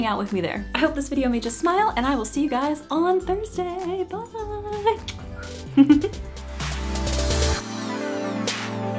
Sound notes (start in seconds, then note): 4.9 kiss; 5.0 outro music